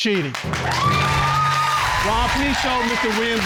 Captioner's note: audience applauding